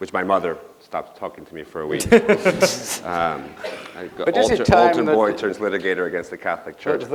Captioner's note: laughter